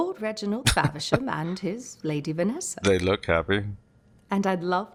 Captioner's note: laughing